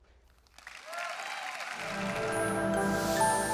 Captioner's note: audience applauds; calm music